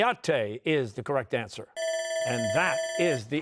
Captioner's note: bell ringing